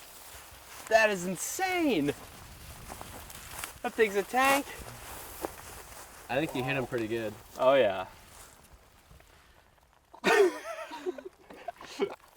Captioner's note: laughing